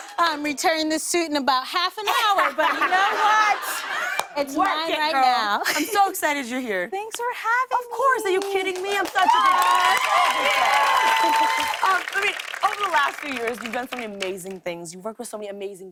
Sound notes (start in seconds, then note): 2.1 laughter; 8.7 cheers and applause